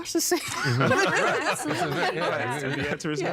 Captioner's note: all laughing